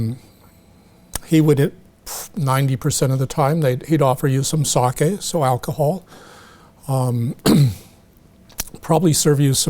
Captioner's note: clears throat